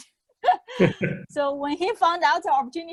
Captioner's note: laughing